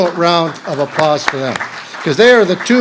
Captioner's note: audience clapping